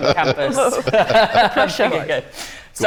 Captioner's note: laughter